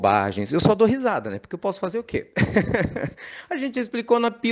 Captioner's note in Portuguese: Risos